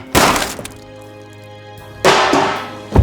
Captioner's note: gun fires; lasagna pan thuds